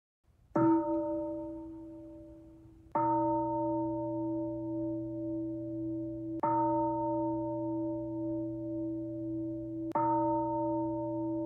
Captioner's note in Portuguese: Sinos tocam quatro vezes